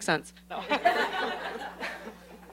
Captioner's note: laughter